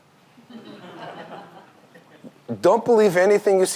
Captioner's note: audience laughs